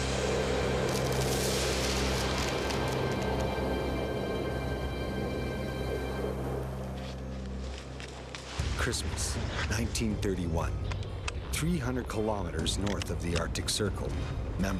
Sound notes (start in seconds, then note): 0.1 suspenseful music; 9.0 voiceover